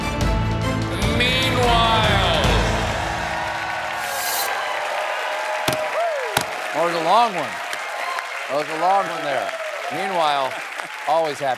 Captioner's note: cheers and applause